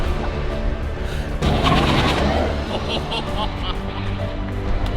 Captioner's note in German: durchdrehende Reifen